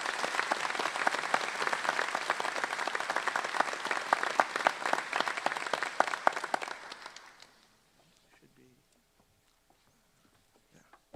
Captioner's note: applause